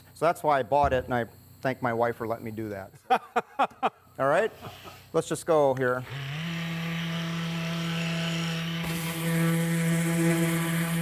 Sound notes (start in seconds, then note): 3.0 laughs; 6.0 sander hums